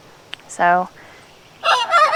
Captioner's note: crowing